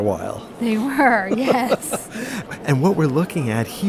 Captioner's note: laughs